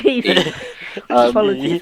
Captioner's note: laughing